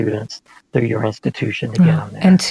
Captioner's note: faintly speaking